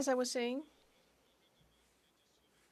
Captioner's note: speaking French